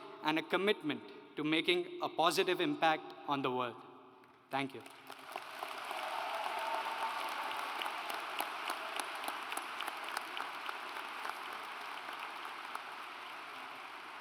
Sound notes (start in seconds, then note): 5.9 audience applauds